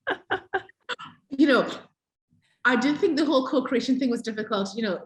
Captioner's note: laughs